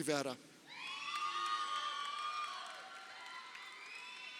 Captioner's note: crowd cheering